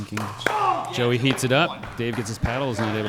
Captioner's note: applause